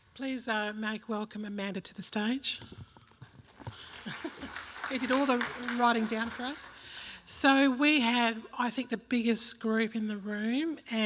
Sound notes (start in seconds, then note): 3.4 applause; 3.8 laughs